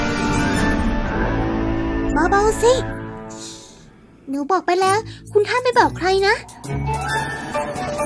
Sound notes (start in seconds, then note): 0.1 scream